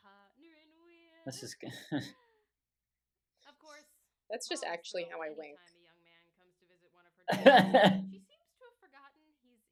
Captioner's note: laughter